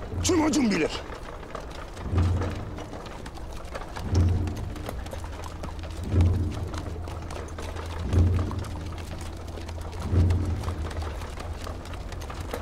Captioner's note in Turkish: Kağnı Sesleri